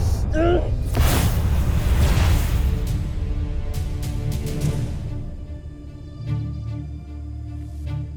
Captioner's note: rousing music playing; speaking in enchanta; grunts; energy whoosh